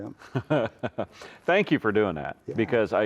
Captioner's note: chuckles